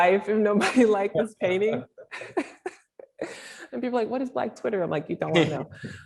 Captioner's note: laughter